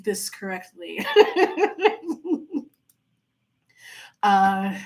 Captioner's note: laughing